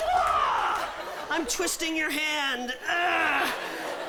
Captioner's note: grunting